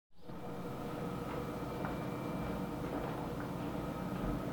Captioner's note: potter's wheel whirs